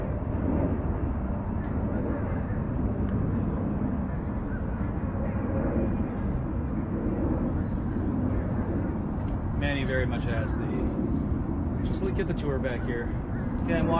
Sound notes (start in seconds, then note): 5.1 airplane noise